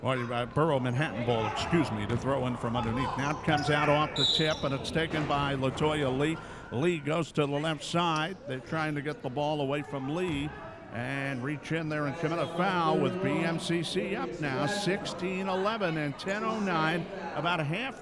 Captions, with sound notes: Pardon me, Borough of Manhattan ball, excuse me, the throw-in from underneath. Now it comes out off the tip, (referee whistling) and it's taken by Latoya Lee. Lee goes to the left side, they're trying to get the ball away from Lee and reach in there and commit a foul with BMCC up now, 16-11 and 10:09, about halfway through.